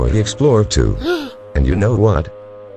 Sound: gasps

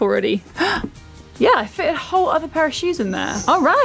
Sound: gasps

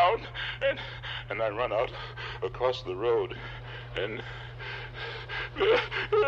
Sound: sobs

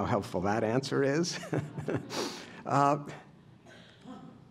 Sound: laughter

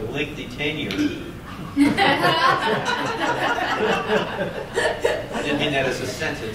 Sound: laughter

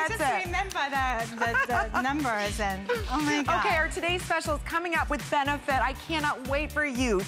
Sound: laughter

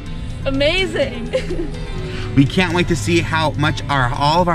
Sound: laugh

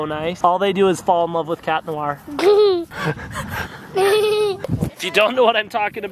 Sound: giggling

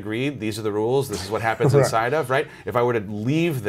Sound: murmurs

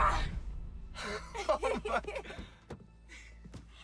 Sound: laughter

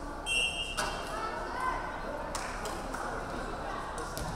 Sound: referee whistling

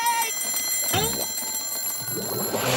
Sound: ringing

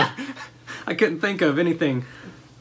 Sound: laughter

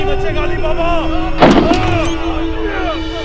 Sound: door opens

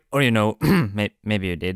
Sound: cough

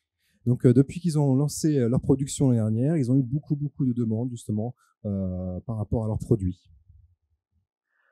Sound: translating into french

